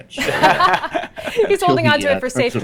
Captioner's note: laughter